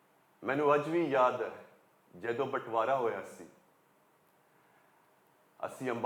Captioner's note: in Punjabi